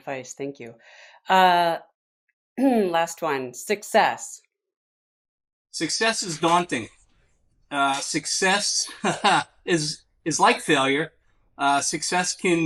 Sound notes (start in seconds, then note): 8.7 laughs